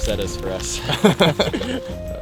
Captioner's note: both laugh